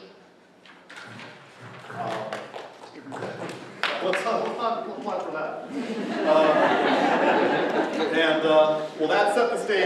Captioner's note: applause; laughter